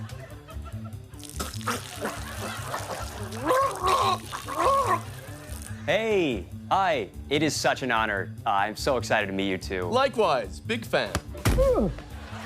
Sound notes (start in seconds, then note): 1.2 choking